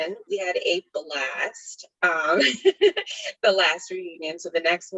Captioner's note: laughs